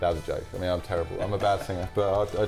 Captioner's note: laughs